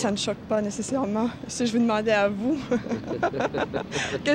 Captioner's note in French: rires